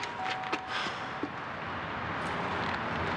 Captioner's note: doorbell rings